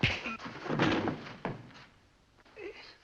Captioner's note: thump